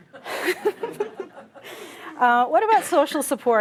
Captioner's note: laughter